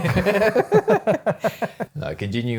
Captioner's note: both laughing